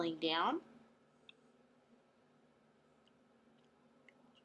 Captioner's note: long pause